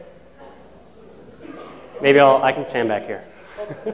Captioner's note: laughter